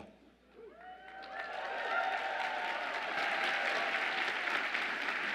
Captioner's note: audience applauds and cheers